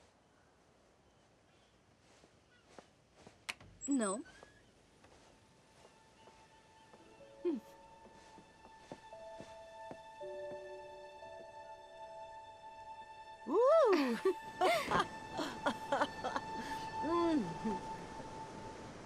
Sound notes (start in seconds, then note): 13.6 Mrs. Bascom laughs; 13.8 Ruth chuckles